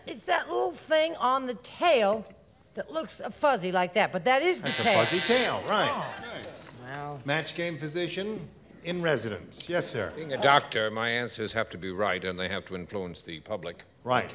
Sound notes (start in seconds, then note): 4.6 buzzer